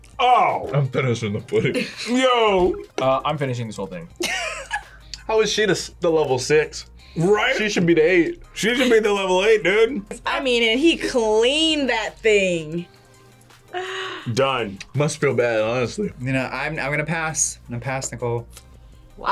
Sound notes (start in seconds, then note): 4.2 laughs